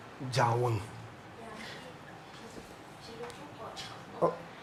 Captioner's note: speaking in foreign language; moderator speaking in foreign language